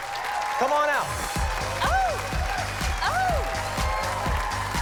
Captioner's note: cheering, applause